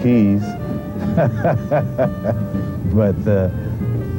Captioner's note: laughs